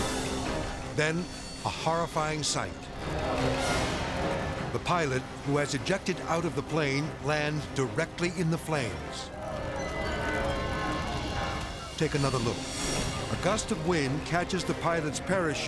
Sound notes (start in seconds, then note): 0.0 frantic dramatic music; 0.0 klaxon blaring; 9.6 eerie music; 9.6 flames crackling